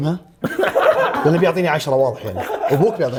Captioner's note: laughs